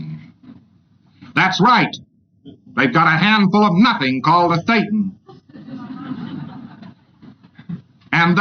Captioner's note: audience laughter